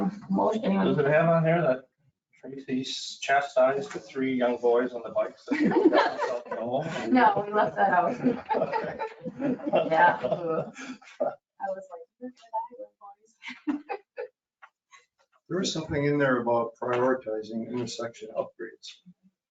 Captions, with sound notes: Does it have on there that Tracy chastised the three young boys on the bikes? (everyone laughing) No, we left that out. (laughing) That was hilarious (laughing) There is something in there about prioritizing intersection upgrades.